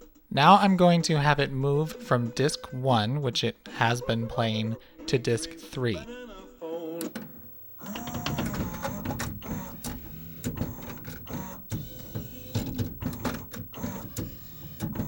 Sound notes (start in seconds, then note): 9.8 high pitched sounds, two tray motor move maneuvers; 11.2 high pitched whir with two clicks; 13.0 double tray motor